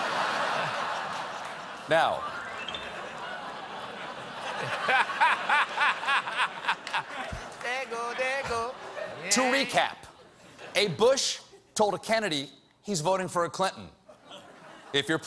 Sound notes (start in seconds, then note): 8.2 laughter